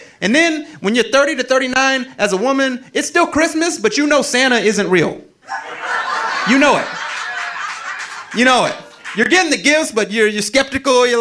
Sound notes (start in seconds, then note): 5.4 audience laughing